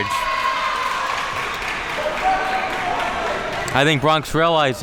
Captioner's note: crowd cheering